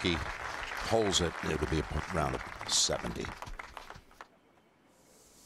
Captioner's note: applause